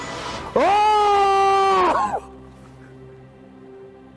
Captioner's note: aullando